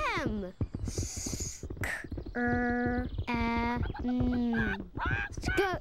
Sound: sounding out word

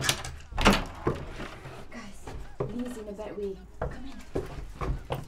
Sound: whispering

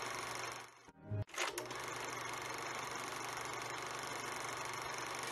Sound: 1950s film projector continues rolling

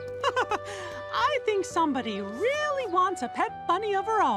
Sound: laughs

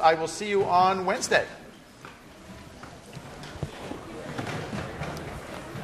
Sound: class murmur

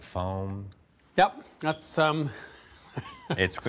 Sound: laughs

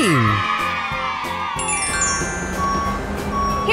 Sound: cheers

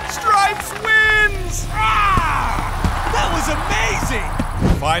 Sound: roaring

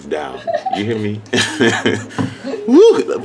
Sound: chuckling

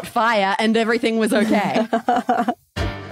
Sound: laughs

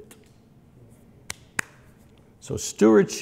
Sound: smacks

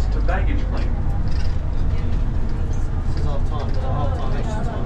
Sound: chatter

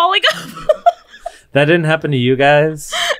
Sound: laughing

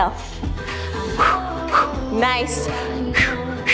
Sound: exhales audibly; exhales audibly

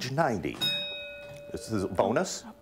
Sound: ding

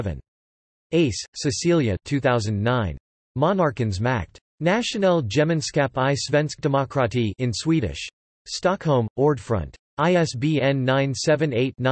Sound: in Swedish

